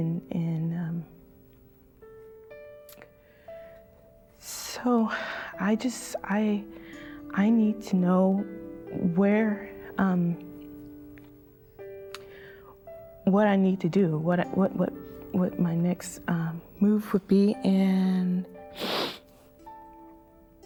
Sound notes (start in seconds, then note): none